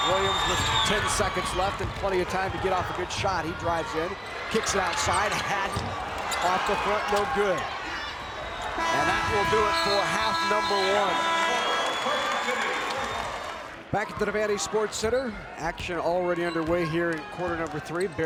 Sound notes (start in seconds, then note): 8.8 buzzer rings; 12.2 crowd applauds